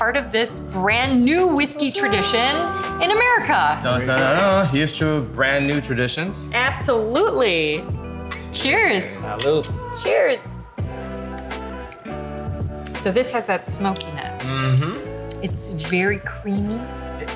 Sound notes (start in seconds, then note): 8.2 glasses clinking; 11.7 upbeat music